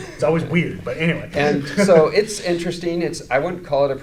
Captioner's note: laughing